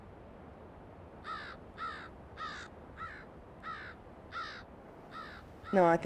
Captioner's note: bird cawing